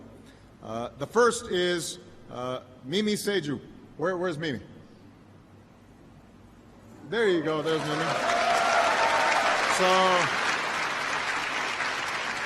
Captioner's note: applause